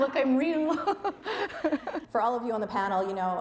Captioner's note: laughing